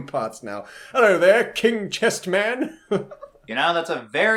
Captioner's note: laughs